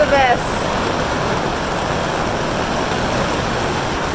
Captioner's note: rain pounding